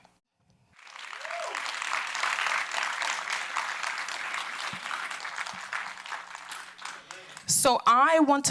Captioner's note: applause